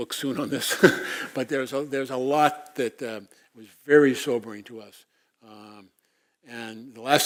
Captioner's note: laugh